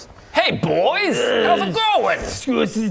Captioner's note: troll grunting; slurp